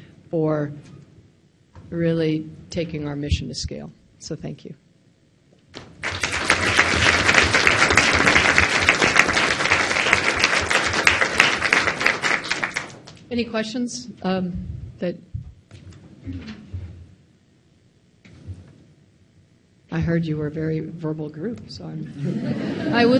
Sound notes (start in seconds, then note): 5.9 applause